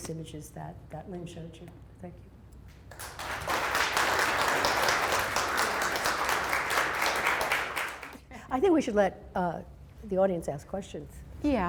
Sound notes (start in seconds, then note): 2.8 applause